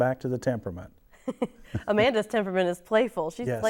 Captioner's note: chuckles